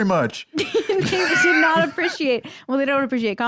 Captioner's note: laughs